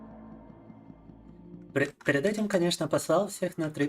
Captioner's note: speaking in Russian